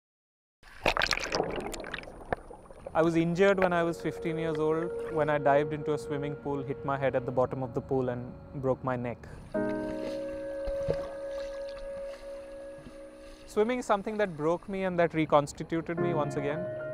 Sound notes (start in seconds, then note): 0.6 flowing water